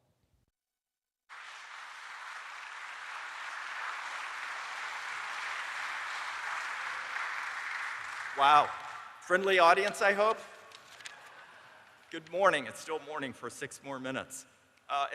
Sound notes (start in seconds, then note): 9.9 applause